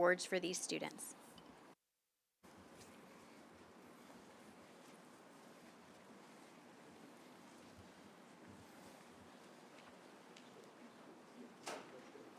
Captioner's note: silence